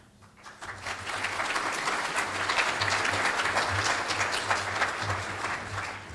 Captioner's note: audience applauding